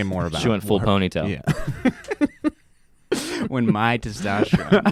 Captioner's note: laughing